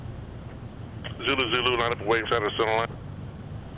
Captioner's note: radio